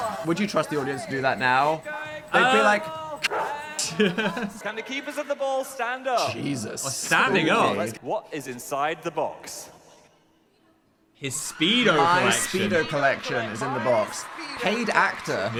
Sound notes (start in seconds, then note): 3.2 dog barking; 3.6 chuckling